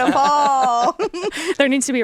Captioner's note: all laughing